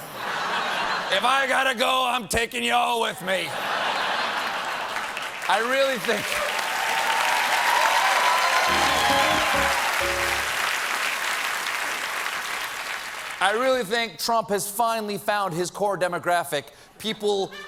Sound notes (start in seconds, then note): 3.6 piano riff; 4.2 applause